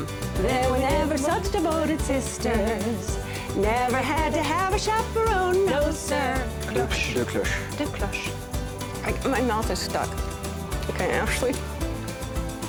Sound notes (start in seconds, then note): 6.5 speaking French